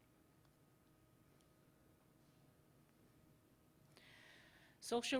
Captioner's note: silence